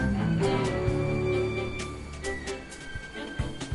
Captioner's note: bells ringing